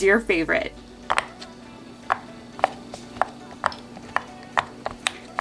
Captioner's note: fidget toy popping